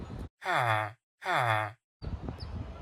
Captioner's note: villager noises